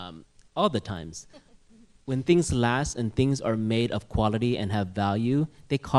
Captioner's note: laughter